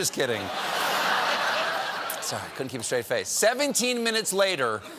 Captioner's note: laughter